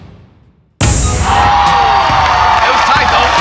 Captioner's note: spectators applauding